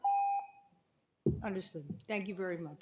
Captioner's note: timer tone